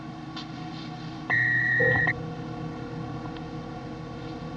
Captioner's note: porta emite um sinal sonoro